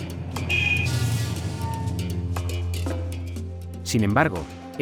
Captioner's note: dramatic music; car horn honking